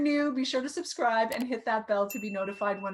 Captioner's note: mouse clicking; bell dings